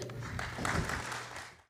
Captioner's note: applause